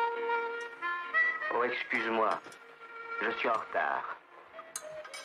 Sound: french-language radio

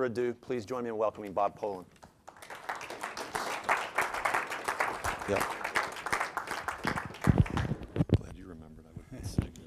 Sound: applause

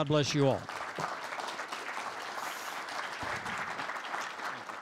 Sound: applause

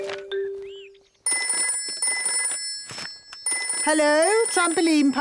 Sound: phone ringing

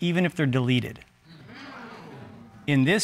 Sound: audience exclaiming

